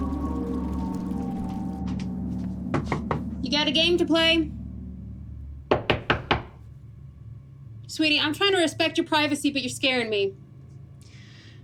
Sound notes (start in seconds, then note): 2.7 fist knocking; 5.6 fist knocking